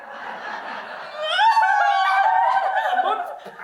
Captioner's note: women sob